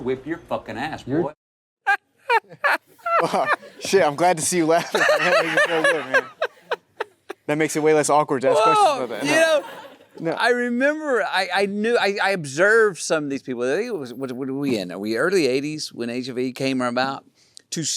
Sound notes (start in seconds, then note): 2.2 Matthew laughs; 2.2 Timothée laughs; 4.7 chuckles; 6.4 Matthew laughs